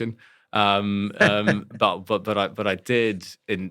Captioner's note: laugh